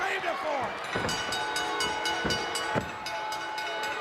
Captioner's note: bell dings